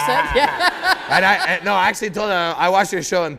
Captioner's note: laughter